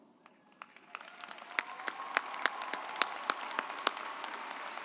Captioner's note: audience applauds